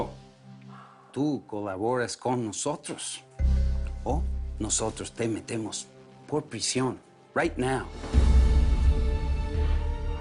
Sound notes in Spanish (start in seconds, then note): none